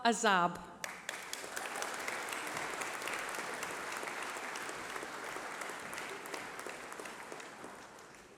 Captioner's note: applause